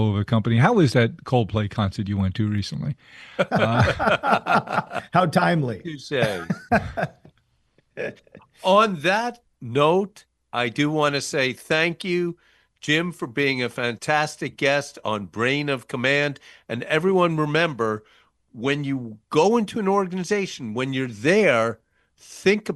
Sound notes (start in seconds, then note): 3.2 laughing